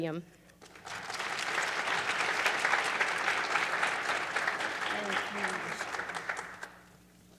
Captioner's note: applause